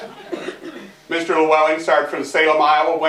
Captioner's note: laughter